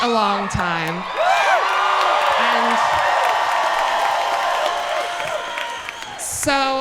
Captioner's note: audience cheering and clapping loudly